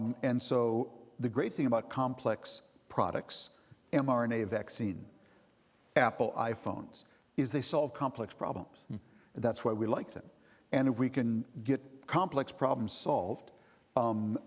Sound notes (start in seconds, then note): none